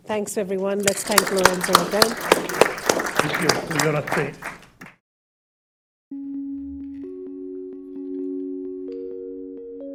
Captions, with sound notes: Thanks, everyone. Let's thank Lorenzo again. (audience applauding) - Thank you for your attention. (bright music)